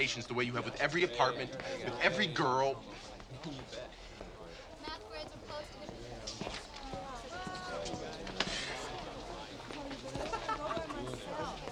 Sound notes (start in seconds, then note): 3.7 students chatter